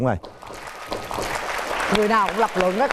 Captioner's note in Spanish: aplausos